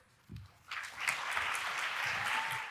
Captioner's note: audience cheering and applauding